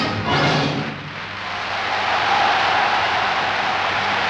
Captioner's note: applause